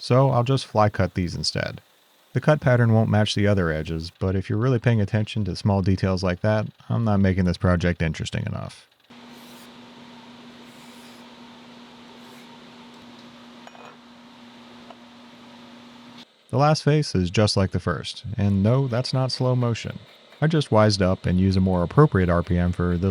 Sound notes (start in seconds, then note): 9.1 machinery whirring; 13.6 metal clanking